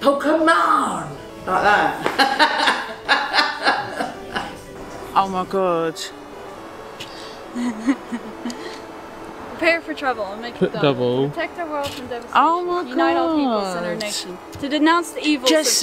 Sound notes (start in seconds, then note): 1.5 laughs; 7.5 laughs